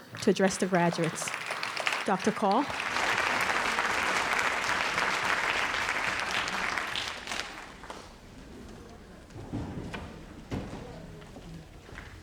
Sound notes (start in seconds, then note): 3.6 audience applauds